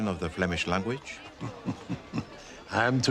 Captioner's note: tertawa